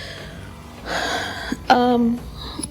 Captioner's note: sigh